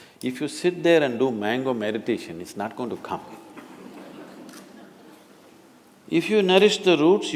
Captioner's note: laughter